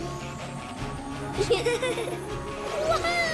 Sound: chuckling

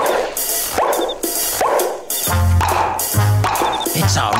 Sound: popping sound

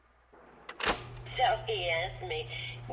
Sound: tape recorder clicks

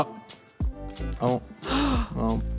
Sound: gasps

